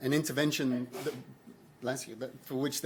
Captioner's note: attendee sneezes